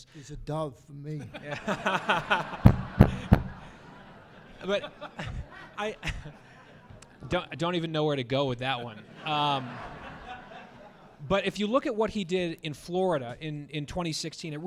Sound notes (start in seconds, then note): 1.2 laughs; 3.1 audience laughing